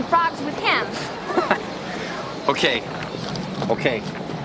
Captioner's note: laughs